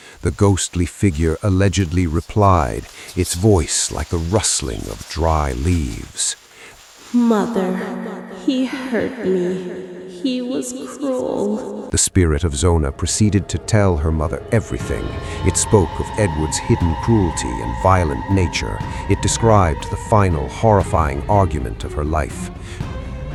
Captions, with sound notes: The ghostly figure allegedly replied, its voice like a rustling of dry leaves. [ghostly echo]: "Mother... he hurt me... He was cruel." The spirit of Zona proceeded to tell her mother everything. It spoke of Edward's hidden cruelty and violent nature. It described the final horrifying argument of her life.